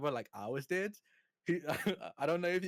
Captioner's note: chuckles